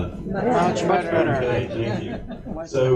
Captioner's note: audience murmurs of approval